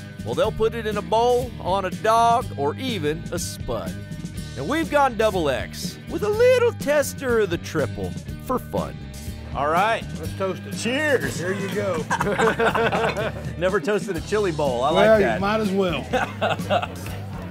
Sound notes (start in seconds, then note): 11.2 laughing